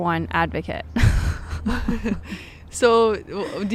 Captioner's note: both laughing